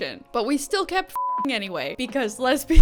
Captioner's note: beep